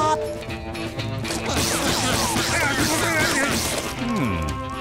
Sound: grunting

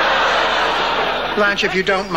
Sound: audience laughing

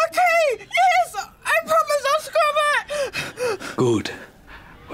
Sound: pants anxiously

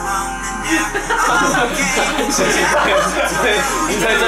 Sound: cracking up

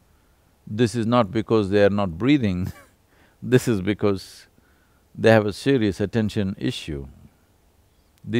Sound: laughs

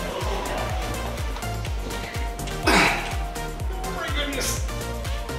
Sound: dad grunts

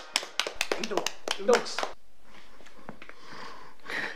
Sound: claps and applause

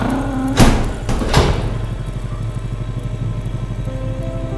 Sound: machinery, door groaning shut; door slams

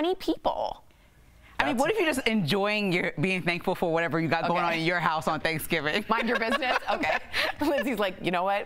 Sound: laughter

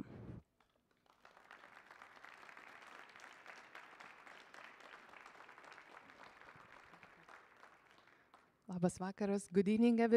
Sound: applause

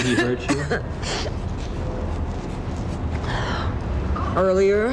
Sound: coughing

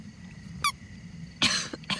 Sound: squeak

